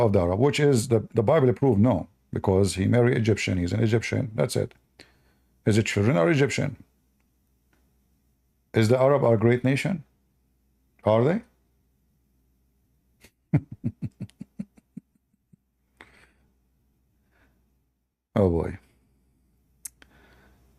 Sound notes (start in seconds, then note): 13.2 Ketawa